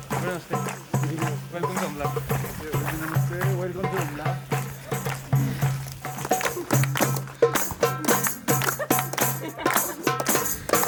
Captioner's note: laughter